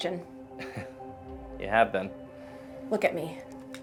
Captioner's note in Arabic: تضحك